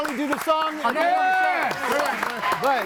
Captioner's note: group applauds